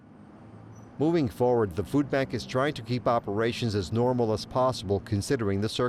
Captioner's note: car engines growling faintly